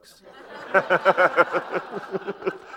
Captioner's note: laughter